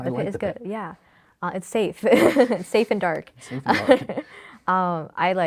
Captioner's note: laughs